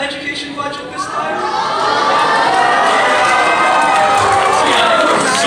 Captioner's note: intense cheering